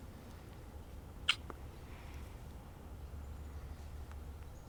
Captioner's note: lips smacking